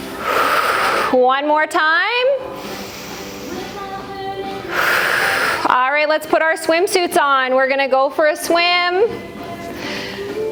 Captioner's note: breath